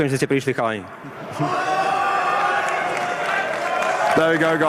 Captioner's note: crowd cheering; crowd clapping